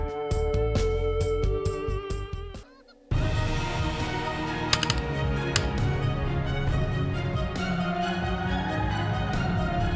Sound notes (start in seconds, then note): 4.4 gun shots